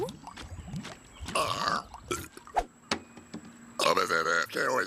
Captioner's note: owen belching